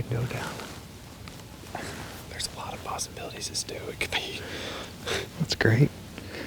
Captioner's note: whispering